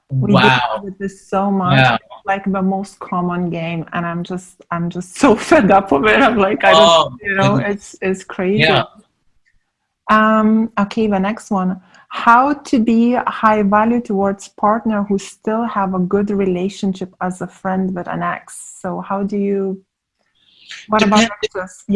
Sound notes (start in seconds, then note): 5.9 laughing